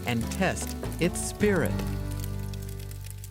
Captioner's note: fire crackles